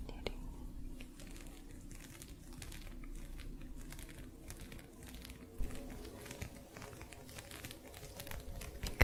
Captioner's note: gentle scratching